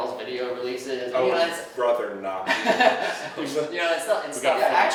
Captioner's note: laughing